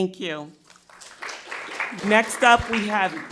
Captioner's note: crowd clapping